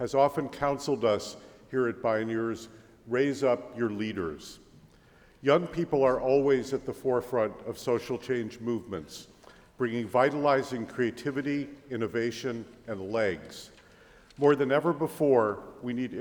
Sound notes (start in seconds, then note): none